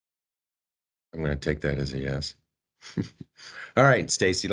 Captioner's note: chuckles